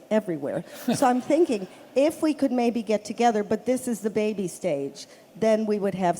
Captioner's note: laughter